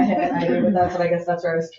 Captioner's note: members chuckle